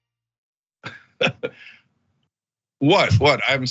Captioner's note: laugh